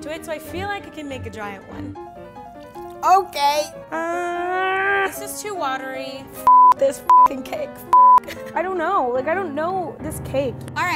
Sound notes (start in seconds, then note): 1.9 tense piano music; 6.4 beep; 8.1 laughs